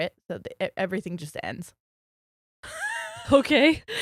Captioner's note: giggles